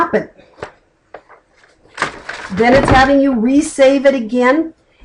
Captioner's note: flipping page